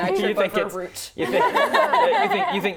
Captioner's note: laughing